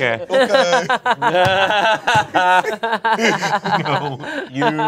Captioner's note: everyone laughs